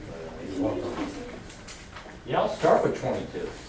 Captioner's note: voiceover